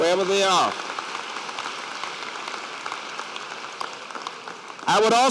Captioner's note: applause